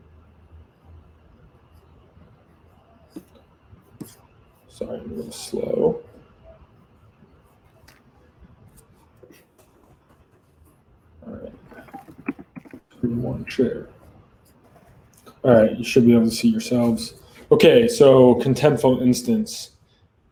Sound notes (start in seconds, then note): 3.2 object rustling; 11.3 conversing quietly